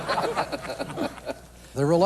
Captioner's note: laughter